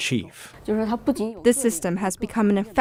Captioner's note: speaking foreign language